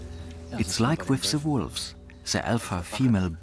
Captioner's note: in German